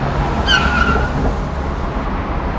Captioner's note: tires squeal